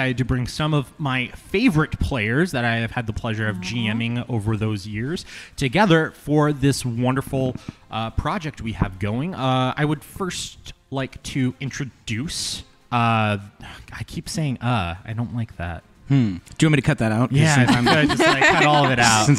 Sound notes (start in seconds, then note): 12.1 makes a sound of disgust; 17.5 laughter